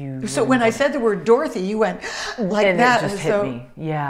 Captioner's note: imitates deep breath